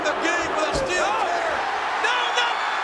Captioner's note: audience cheering